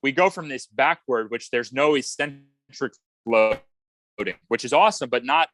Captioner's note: audio warbles